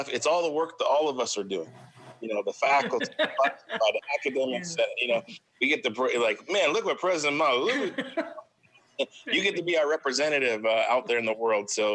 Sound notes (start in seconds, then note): 2.8 laughs